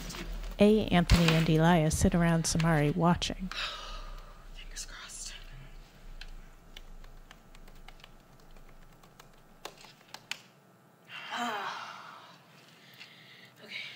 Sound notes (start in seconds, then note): 3.5 deep breath; 9.4 typing; 11.2 students groan and sigh